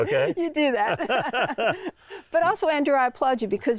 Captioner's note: continue laughing